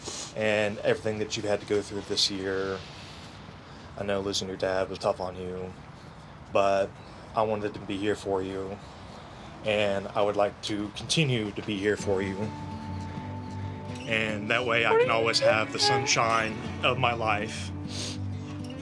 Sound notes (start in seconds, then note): 14.8 crying